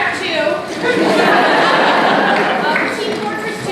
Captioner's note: laughter from crowd